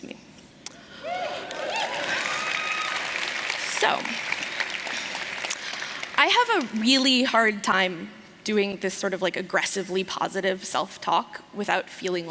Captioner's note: applause